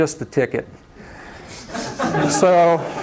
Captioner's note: laughter